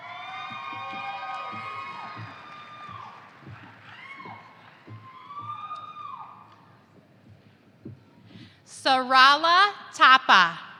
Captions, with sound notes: (audience applauding) Sarala Thapa